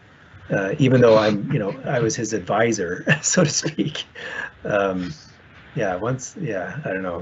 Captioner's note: laughs